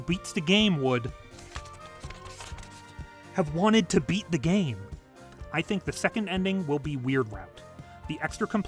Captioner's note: flips through pages